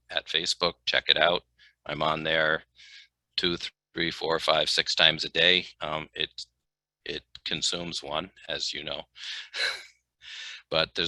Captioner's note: soft laughter